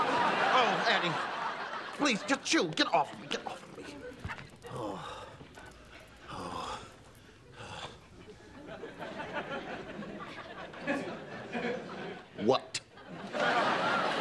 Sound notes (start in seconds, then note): 3.3 sighing